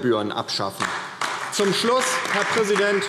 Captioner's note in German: Beifall DIE LINKE und SPD